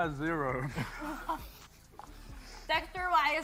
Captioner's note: laughter